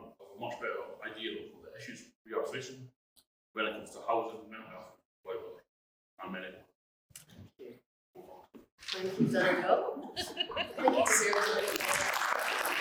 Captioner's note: applause